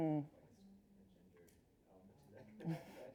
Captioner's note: chuckles